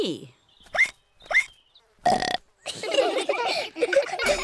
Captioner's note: hiccups; all giggle; ducks hiccup and burp; bell dings